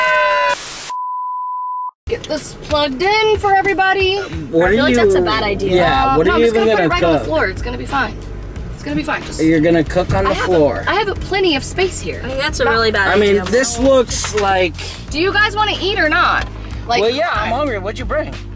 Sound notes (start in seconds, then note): 0.9 beeping